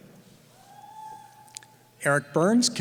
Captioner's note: cheering